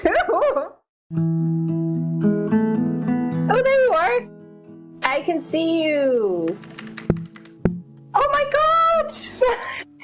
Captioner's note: laughs happily